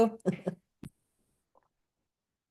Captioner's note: chuckles